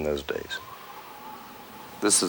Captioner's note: wind howls